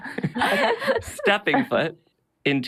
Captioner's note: laughing